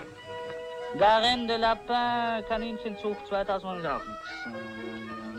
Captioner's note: French speaking